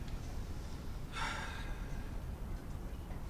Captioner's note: sighs